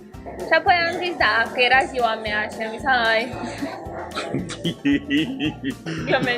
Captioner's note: laughing